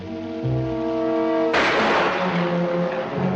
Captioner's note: firing